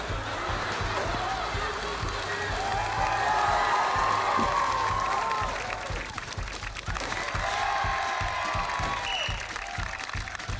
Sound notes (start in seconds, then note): 2.2 applause; 7.3 cheering; 8.9 blows whistle